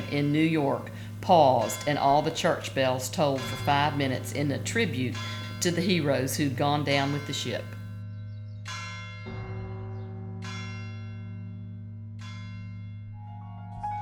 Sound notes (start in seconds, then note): 8.8 ringing bells